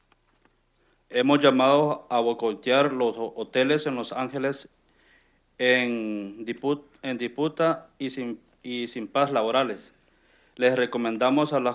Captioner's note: speaking in Spanish